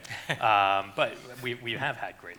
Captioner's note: laughing